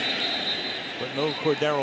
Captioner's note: whistle blows